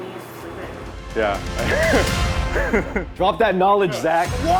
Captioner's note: laughs